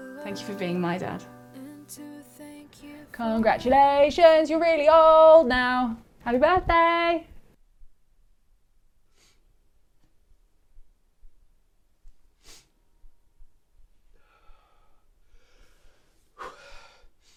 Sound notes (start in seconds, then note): 12.4 Sean sniffles; 14.5 Sean exhales